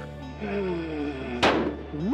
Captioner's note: gunshot